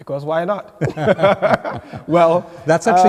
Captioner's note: laughing